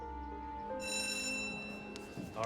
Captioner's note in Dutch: schoolbel gaat